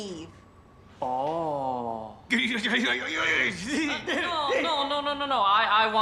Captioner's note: uncle speaking gibberish